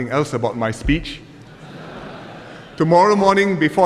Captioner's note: laughter